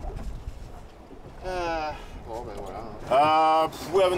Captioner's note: sighs